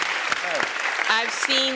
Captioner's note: applause